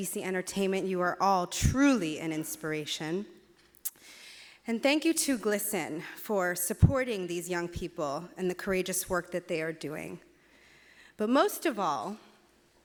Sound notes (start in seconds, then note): none